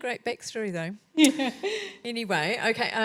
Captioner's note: laughs